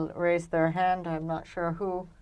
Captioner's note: speaking French